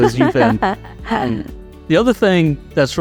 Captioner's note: laughing